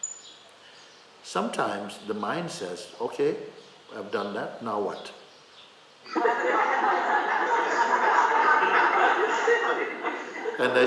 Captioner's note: laughter